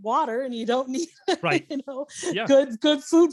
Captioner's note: laughing